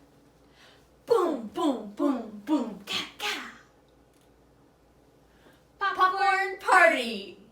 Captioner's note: in Unison